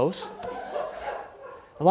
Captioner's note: laughter